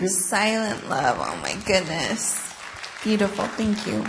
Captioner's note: applause